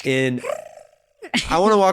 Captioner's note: laughing